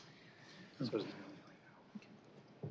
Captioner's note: whispering